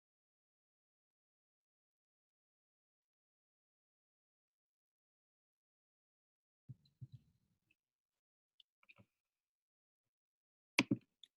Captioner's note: silence